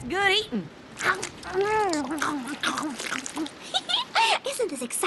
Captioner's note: slurping; giggles